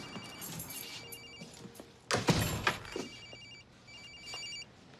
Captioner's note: phone ringing